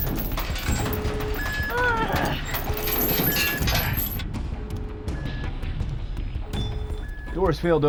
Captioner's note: grunts; alarm